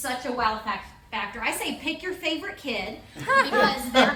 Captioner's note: all laugh